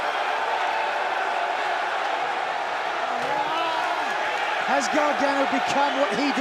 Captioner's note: crowd cheering